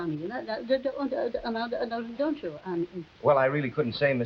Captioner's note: Veta stammering